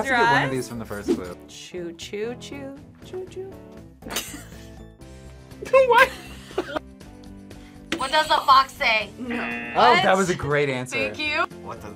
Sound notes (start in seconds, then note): 4.2 React laughs; 6.0 laughs; 9.2 buzzer; 9.2 buzzer rings